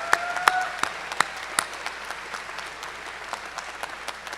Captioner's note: cheers and applause